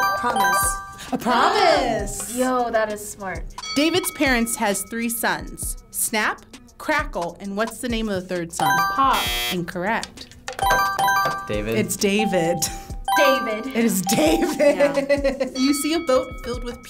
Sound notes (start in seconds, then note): 0.0 bell chimes; 0.0 buzzer chimes; 3.6 bell dings; 8.6 buzzer chimes; 9.0 buzzer blares; 10.5 buzzer chimes; 12.0 bell chimes; 13.8 laughs; 15.5 bell dings